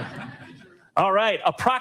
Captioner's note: audience laughing